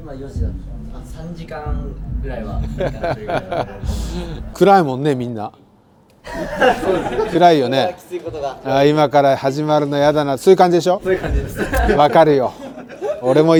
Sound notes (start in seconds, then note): 5.3 laughs